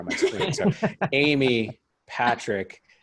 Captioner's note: laugh